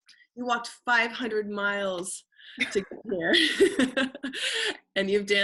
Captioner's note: laughing